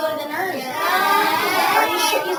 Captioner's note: students chattering